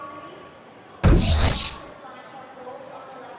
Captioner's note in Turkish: Tekrar ışınlanma sesi